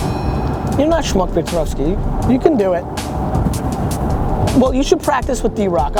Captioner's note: speaks Russian